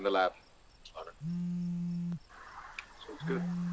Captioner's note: phone rings